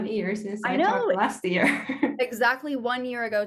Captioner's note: chuckling